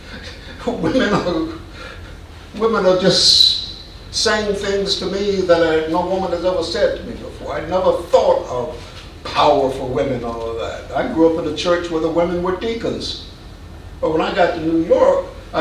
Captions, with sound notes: (man chuckling) Women who, women are just saying things to me that no woman has ever said to me before. I never thought of powerful women, all of that. I grew up in a church where the women were deacons. But when I got to New York,